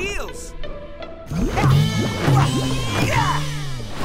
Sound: grunting

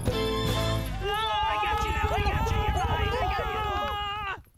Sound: monkeys shouting

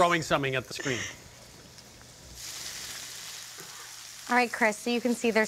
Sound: sizzling

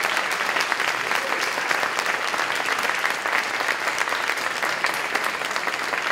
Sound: applause, cheering

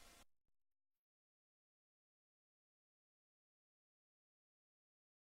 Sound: silence

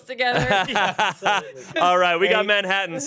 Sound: everyone laughs

